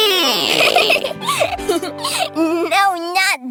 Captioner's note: chuckles